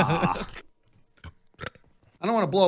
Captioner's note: burps